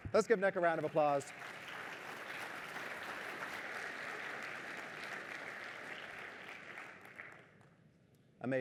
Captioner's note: applause